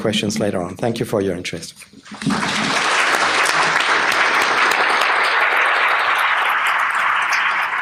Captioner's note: applause